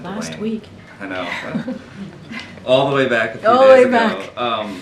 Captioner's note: laughter